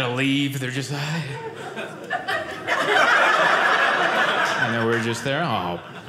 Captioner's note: audience laughing